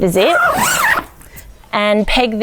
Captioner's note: zip being pulled